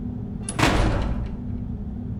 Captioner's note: door slam